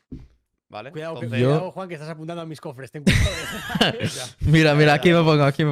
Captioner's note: laughs